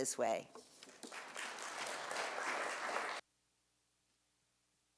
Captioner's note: audience applauds